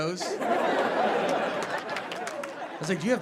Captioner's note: audience laughing